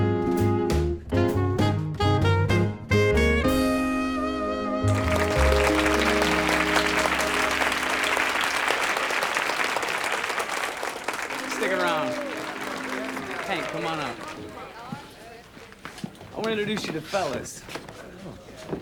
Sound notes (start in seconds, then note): 4.9 audience applauding